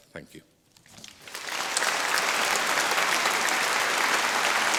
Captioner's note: applause